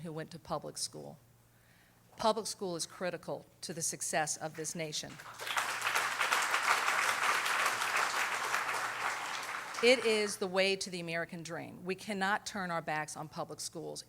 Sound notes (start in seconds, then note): 5.1 applause